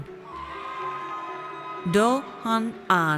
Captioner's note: audience cheers